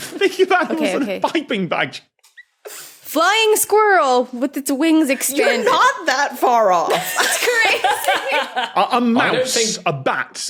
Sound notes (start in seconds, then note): 0.2 laughs; 6.9 both laughing